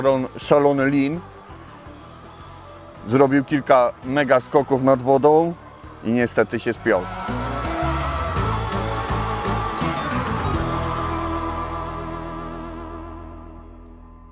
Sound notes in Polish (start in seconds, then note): 6.8 Aplauz